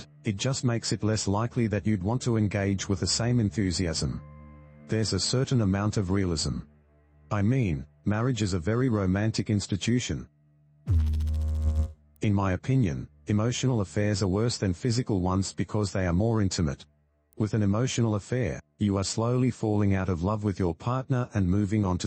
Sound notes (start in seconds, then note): 10.8 electrical noise